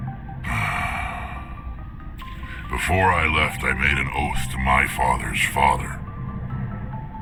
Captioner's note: sighs